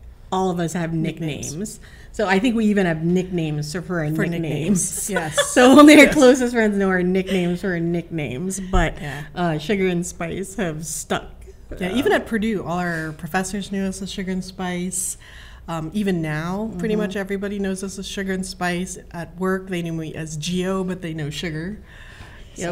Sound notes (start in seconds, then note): 4.0 laughs